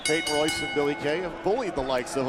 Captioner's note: bell ringing